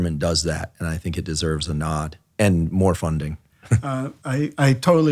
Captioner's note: chuckles